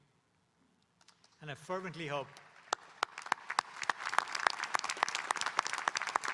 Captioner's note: audience applauding